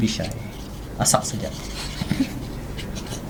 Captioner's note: laughs